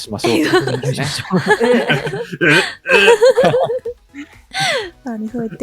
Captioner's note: laughter